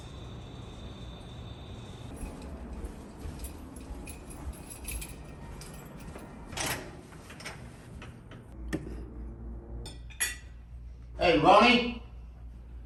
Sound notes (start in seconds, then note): 2.1 keys jingling; 8.3 door creaking